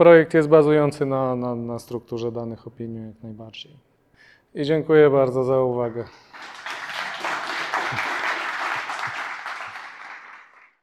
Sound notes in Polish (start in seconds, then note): 6.2 Aplauz